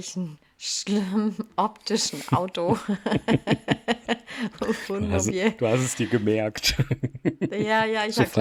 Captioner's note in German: gelächter